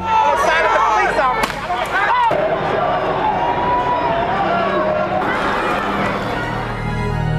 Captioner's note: crowd noises